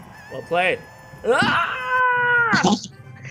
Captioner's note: excited scream